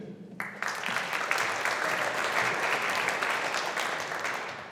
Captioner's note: audience applauding